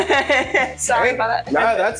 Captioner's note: laughs